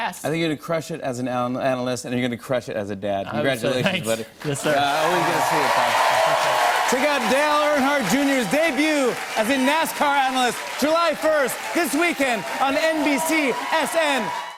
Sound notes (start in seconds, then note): 3.6 cheers and applause